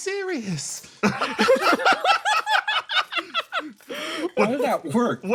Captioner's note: laughs